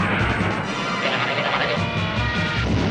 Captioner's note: alarmed cartoon sound effects; blammo